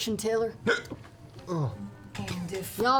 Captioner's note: hiccups